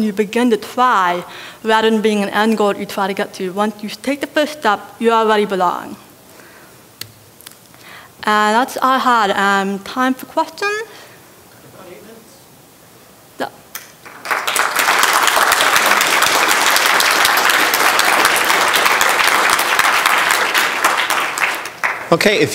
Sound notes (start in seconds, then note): 14.0 applause